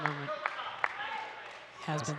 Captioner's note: audience cheering and clapping